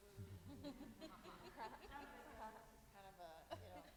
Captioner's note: laughter drowns out speech